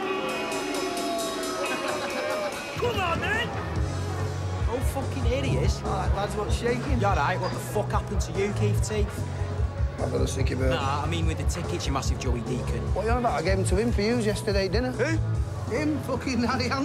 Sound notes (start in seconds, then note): 1.1 laughs